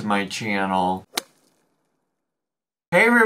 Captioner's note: logo thuds